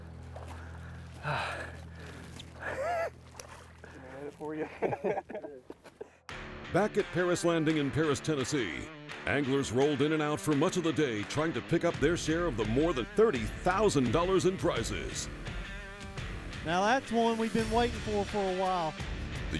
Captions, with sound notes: (laughing) - [Voiceover] Back at Paris Landing in Paris, Tennessee, anglers rolled in and out for much of the day trying to pick up their share of the more than $30,000 in prizes. - [Voiceover] Now that's one we've been waiting for for awhile.